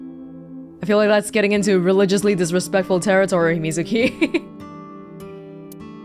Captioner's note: chuckles